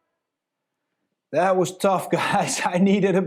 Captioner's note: laughing